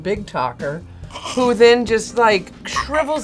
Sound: laughs

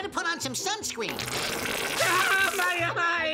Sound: sunscreen spurts; screams

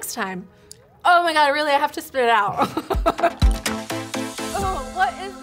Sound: laughs

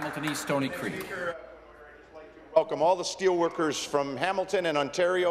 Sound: applause

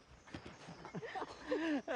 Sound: laughter

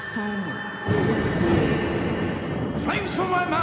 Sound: thunder crashing

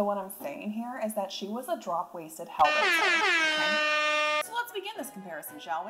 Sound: horns blowing

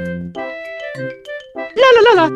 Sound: italian gibberish

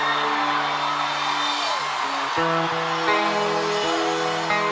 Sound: crowd cheering

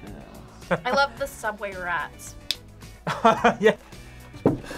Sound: laughs

